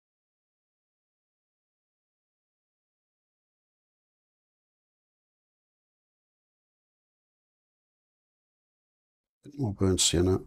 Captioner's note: silence